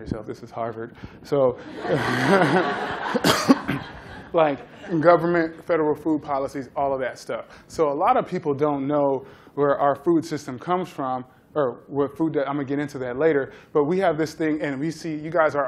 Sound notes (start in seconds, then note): 1.6 laughter